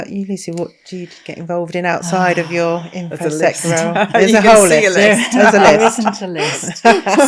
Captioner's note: laughing